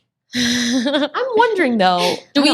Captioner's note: ladies laughing